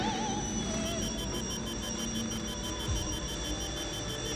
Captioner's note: alarm beeping